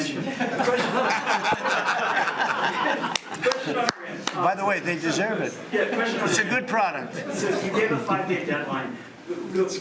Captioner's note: laughter